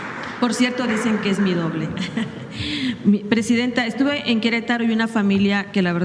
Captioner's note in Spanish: risas